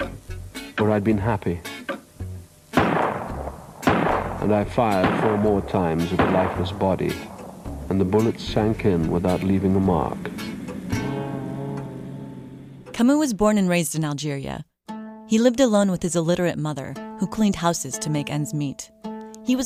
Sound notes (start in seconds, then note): 2.7 gunshots